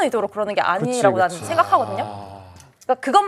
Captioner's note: none